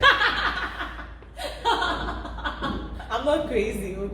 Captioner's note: people laughing